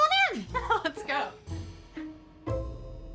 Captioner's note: laughs